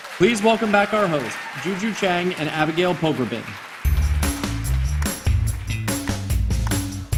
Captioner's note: applause